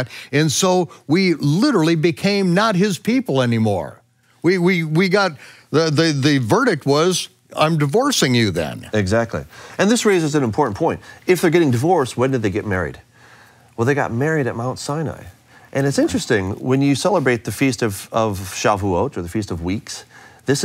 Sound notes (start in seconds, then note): none